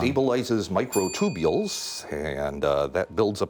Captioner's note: ding